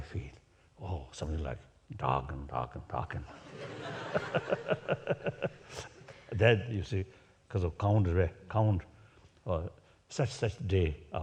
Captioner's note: laughs